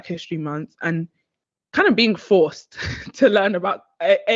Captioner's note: chuckles